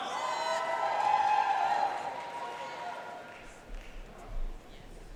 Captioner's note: audience cheering and applauding